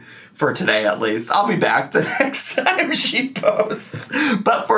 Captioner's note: laughs